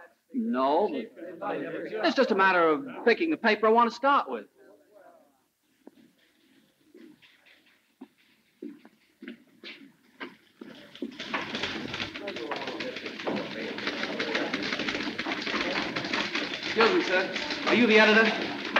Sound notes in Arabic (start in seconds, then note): 10.6 ثرثرة الناس; 11.4 نقرات على مفاتيح الآلة الكاتبة